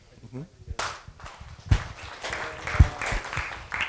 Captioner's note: applause